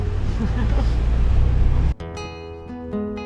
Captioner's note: laughs